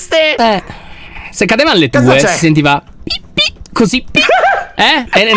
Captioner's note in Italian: tono acuto